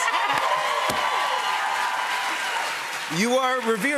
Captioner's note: cheers and applause